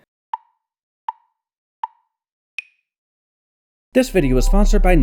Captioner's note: tick, tick, tick, tick, tock